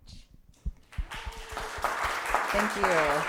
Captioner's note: applause